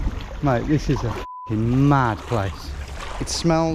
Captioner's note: beep